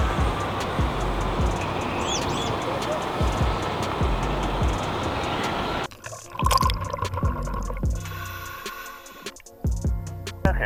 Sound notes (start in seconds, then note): 5.9 air bubbles pop; 8.0 apparatus inhales